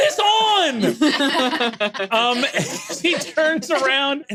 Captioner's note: laughs